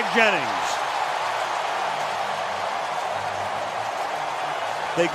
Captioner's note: cheering